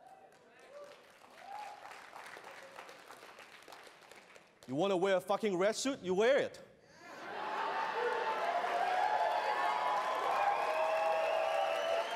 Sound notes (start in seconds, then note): 0.0 applause; 7.2 audience cheers